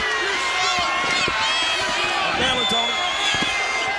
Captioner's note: crowd clamoring